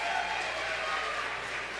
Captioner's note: applause